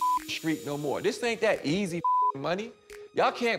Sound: beep

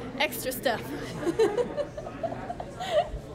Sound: giggling

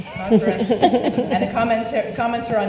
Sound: panelists laugh

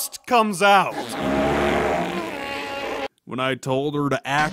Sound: farts

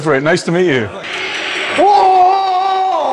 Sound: rollercoaster rattles

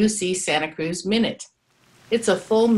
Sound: sounds of rain

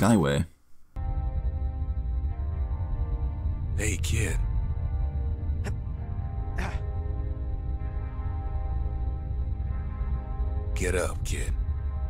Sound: in-game audio

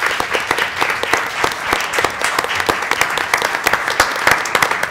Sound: applause

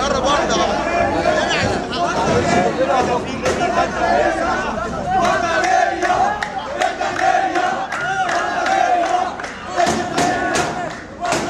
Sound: chants

